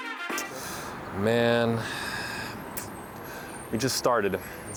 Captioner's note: jazzy music; sighs